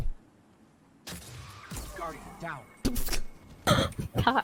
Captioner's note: explosion; laughter